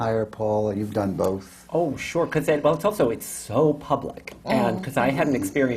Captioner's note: murmurs of agreement from the panel